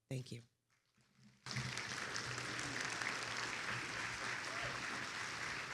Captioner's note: attendees applauding